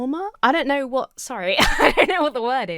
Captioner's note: laughs